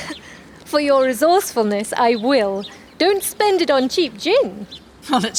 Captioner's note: laughs